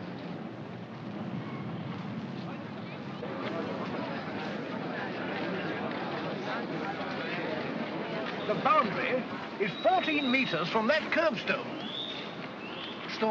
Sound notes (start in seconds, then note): 2.3 crowd murmuring